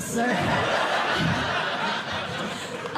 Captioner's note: laughter